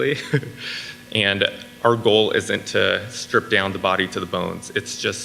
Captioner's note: laughs